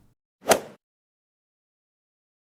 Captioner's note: swoosh